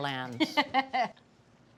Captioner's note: laughs